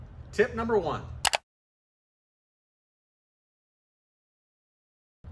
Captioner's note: switch clicking